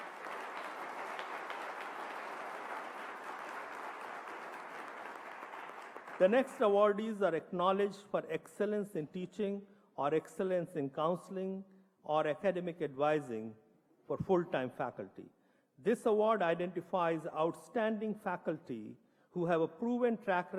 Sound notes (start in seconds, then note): 4.1 applause